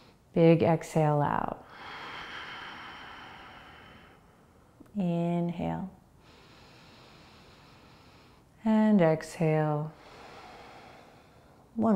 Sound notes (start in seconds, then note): 0.0 inhaling; 1.6 exhaling; 6.2 inhaling; 9.9 exhaling